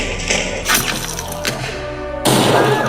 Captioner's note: none